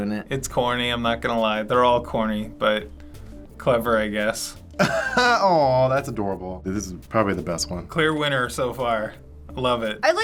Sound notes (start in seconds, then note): 4.8 chuckles